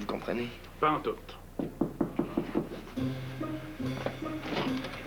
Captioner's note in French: On frappe à la porte